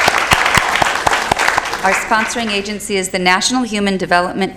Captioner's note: applause